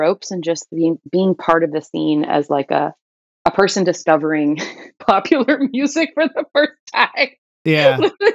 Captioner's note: laughter